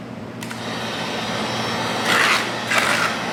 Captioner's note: heat gun whirring; metal scraping